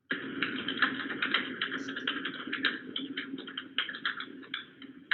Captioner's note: loose parts rattling